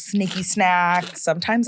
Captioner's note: food crunching